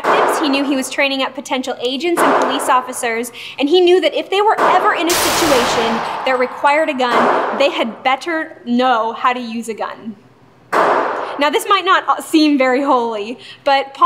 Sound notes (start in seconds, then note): 8.8 sounds of gunshots